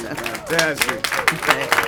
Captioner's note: applause